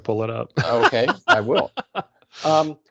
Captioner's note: laughing